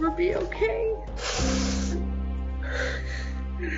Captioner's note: women cry